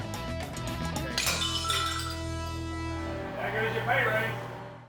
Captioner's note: dish breaks